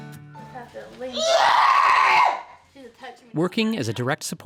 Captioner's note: screaming